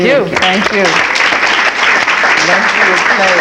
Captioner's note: audience clapping